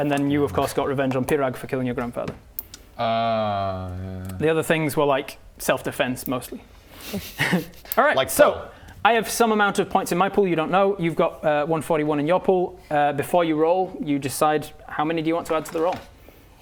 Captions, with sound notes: and then you of course got revenge on Pirag for killing your Grandfather ahhhhhh yeah the other things were like self defense mostly *surprised laugh* - Alright, so - Like Pearl I have some amount of points in my pool, you don't know you've got 141 in your pool before you roll you decide how many do you want to add to the roll